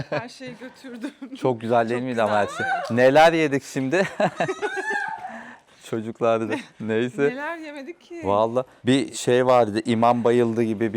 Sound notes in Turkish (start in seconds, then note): 4.0 kahkaha